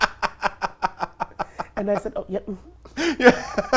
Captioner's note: laughs